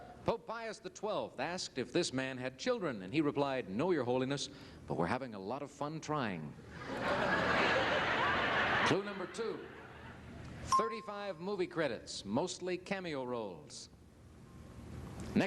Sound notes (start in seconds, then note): 6.8 crowd laughing